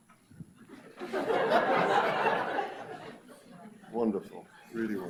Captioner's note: audience laughs